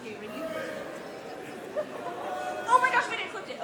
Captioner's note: laughter